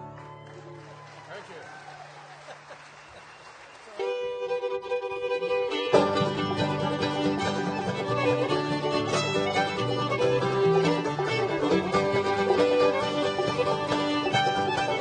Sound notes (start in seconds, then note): 0.0 applause, cheering; 3.8 lively music